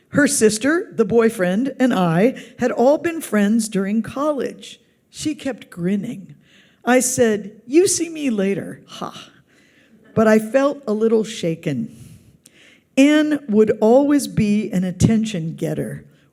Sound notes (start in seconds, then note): none